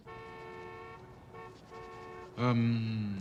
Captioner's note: car horn honking